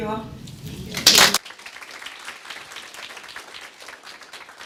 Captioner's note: applause